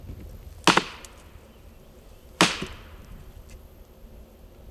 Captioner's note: wood banging